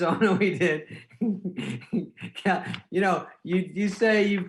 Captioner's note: giggling